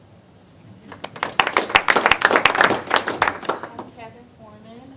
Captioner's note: applause